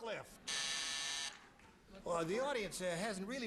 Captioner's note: buzzer